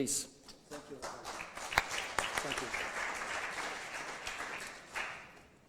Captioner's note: applause